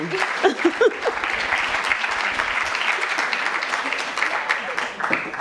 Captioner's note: both girls laugh; audience applauds